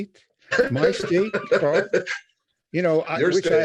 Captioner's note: laughing